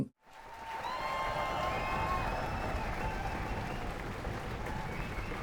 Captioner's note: crowd cheering and applauding